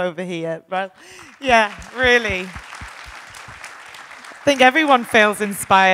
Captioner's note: audience applauding